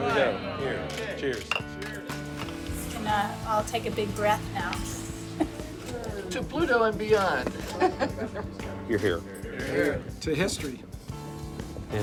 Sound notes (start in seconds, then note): 5.3 laughs; 7.6 laughs